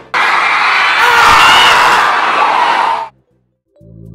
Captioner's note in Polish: screams